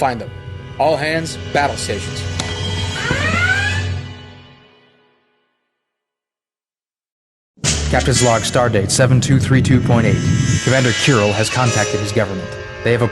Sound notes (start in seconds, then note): 2.6 alert klaxon